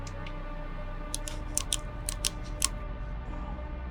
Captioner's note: flashlight clicking; eerie music